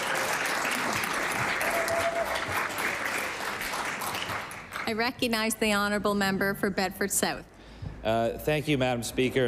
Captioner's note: applause